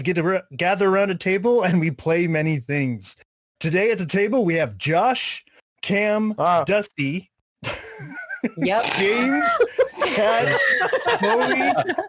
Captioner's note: laughts